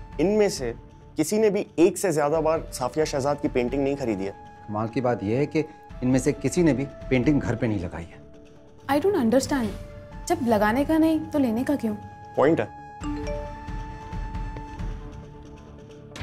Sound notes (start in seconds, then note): 13.0 message tone